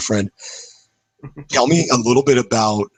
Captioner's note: laughs